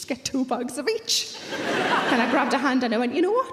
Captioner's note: audience laughing